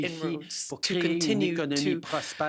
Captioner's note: speaking French